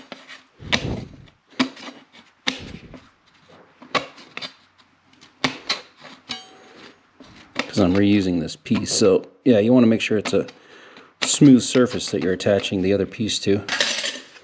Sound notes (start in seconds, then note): none